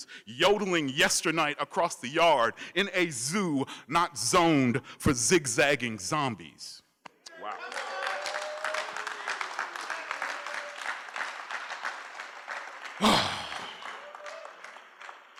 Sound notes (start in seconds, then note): 7.3 cheering; 13.0 sighs